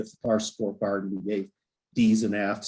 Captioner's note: faintly speaking